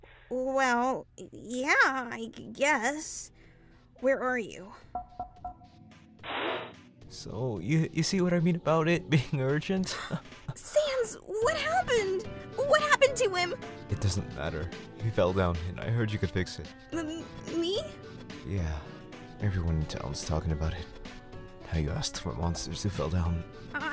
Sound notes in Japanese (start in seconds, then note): 5.0 コンコンコン…